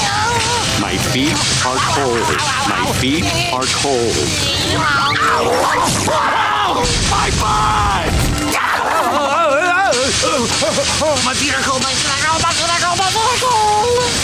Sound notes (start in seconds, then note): 8.2 moaning